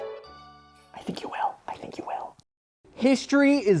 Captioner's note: whispers